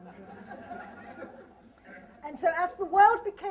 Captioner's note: laughter